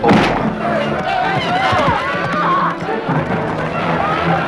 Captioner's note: townsfolk clamoring